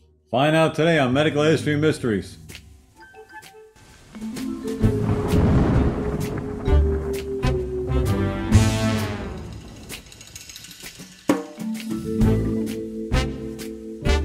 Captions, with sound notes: - Find out today on "Medical History Mysteries." (whimsical music) (thunder crashes) (whimsical music continues)